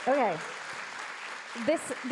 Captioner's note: audience clapping